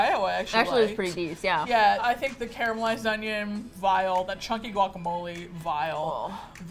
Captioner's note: with disgust